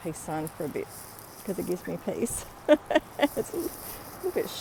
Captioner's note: laughing